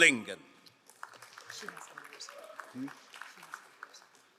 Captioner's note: crowd applauding